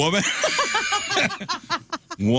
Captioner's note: laughing